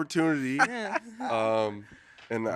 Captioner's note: hosts laughing